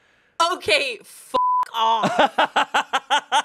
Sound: beep; laughs

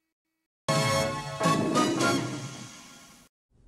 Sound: retro music ends from an edited video cut, while Leo the Lion roars

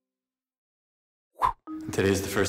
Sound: swoosh sound

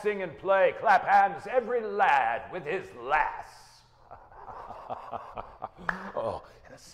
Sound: laughing; hands clapping

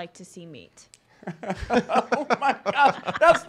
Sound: laughing

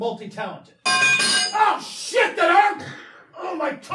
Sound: pry bar clanging to floor

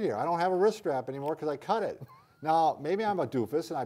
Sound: chuckling

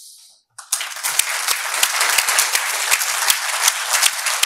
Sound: audience applauding

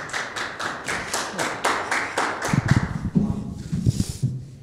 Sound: people applauding

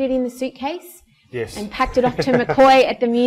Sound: laughs

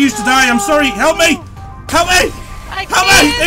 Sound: screams

